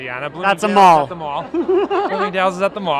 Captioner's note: laughter